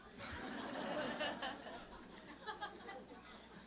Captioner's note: audience Laughter